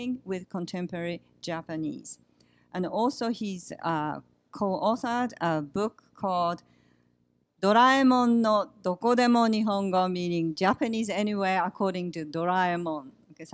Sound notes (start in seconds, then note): 8.6 japanese; 12.6 non-english